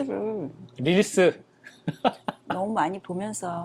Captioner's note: laughs